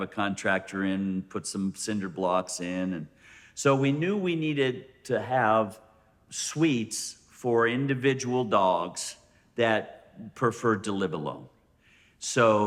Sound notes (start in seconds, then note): none